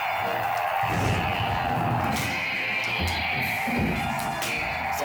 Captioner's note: blade whooshing